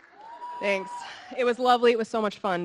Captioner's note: audience screaming